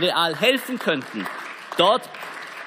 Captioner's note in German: Beifall